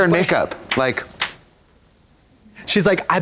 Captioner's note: Katya claps